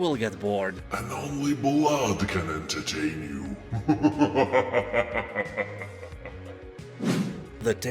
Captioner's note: laughs in demon